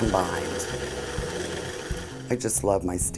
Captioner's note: whirring